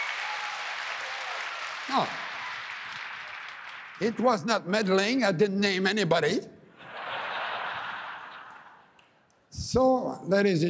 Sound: applause

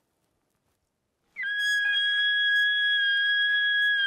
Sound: bugling

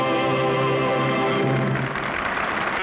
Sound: audience applauds

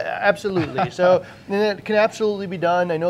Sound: laughs

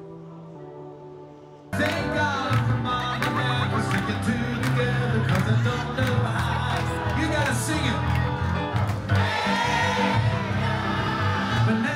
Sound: applause

